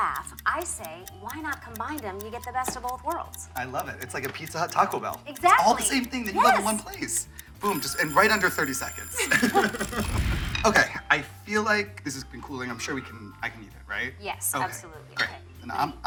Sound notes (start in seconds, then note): 7.6 timer ringing; 8.9 chuckling